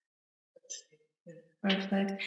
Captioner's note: whispers